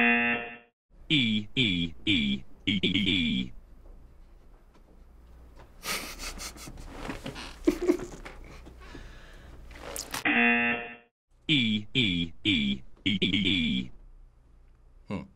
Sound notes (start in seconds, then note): 0.0 buzzer rings; 5.8 laughs; 10.2 buzzer rings